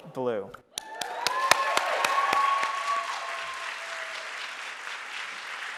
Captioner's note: audience cheering and applauding